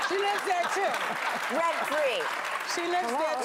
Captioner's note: laughter